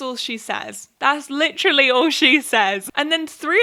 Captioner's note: laughs